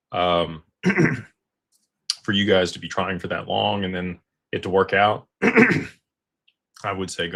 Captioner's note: clears throat